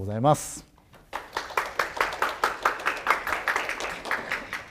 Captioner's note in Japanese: 拍手する音